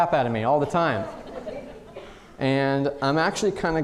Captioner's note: audience laughing